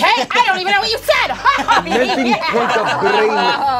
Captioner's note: laughing